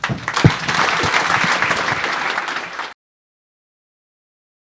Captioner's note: audience applauds